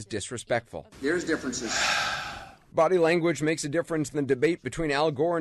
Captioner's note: dramatic Sigh